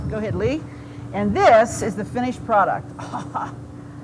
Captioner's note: laughs